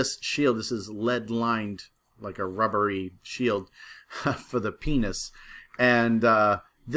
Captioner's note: laugh